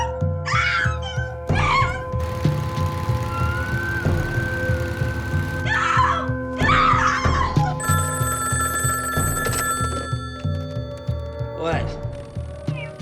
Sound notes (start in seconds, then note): 0.4 screams; 1.5 foreboding music; 7.8 phone rings